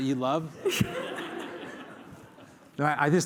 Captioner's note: laughter